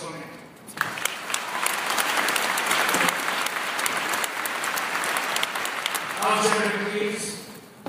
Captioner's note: applause